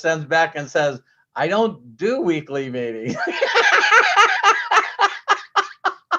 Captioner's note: laughs